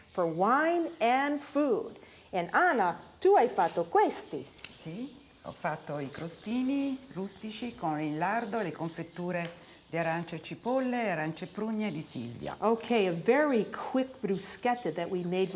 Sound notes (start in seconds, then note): 3.4 speaking Italian